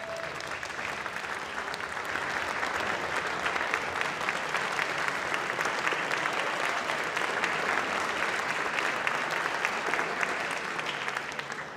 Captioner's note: clapping